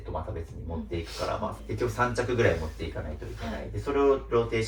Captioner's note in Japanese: 鼻息